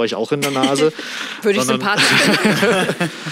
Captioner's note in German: Lachen